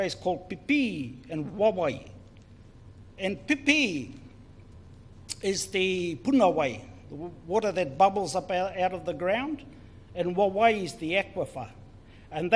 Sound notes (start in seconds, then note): 5.0 foreign Language